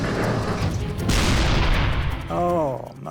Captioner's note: turret whirring; tank turret firing